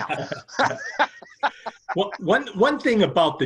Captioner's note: laughs